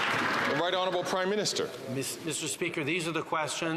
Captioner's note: some Applause